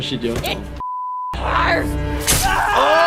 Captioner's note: beep